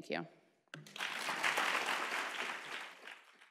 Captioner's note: applause